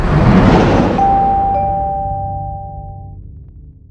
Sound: tone chiming

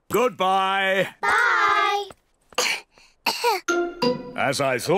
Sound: both cough

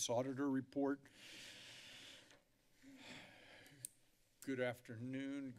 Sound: breathes deeply

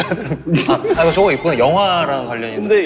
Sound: laughing

